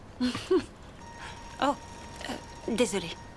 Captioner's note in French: sonnerie de téléphone portable